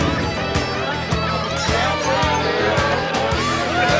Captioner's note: loud music playing; loud party chatter